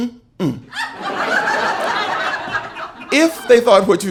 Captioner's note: audience laughing